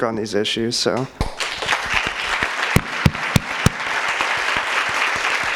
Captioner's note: audience applauds